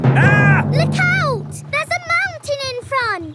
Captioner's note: captain dog screams